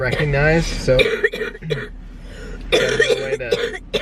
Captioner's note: coughing